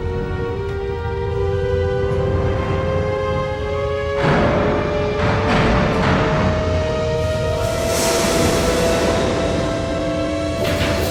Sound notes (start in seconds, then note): 0.1 slow music; 4.2 ship clanging